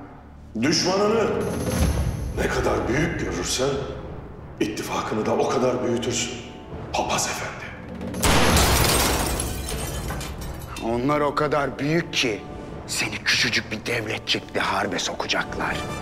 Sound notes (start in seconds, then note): 8.2 gunfire; 8.2 glass breaking sound